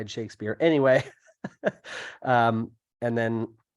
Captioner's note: laughs